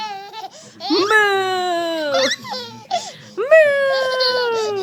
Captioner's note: laughing